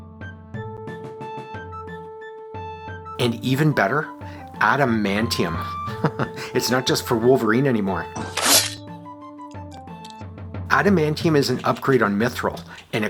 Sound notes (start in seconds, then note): 5.5 chuckles; 8.1 snikt